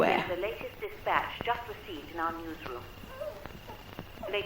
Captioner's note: radio Announcer